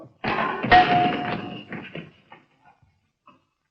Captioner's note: clanging